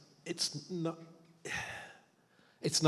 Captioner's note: sighs